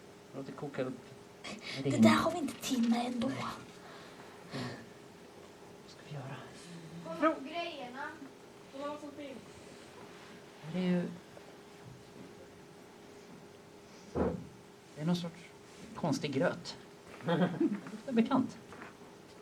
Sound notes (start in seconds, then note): 13.7 sniffs; 17.2 laughter